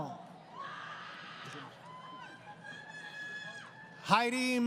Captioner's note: crowd Cheering